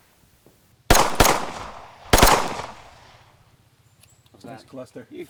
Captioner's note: gunshots booming